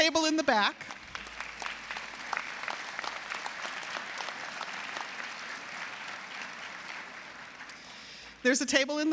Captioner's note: applause